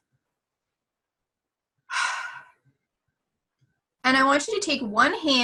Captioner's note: exhaling